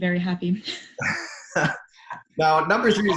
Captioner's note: laughing